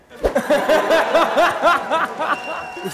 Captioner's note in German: Schallendes Lachen